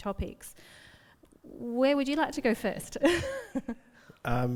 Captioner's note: laughs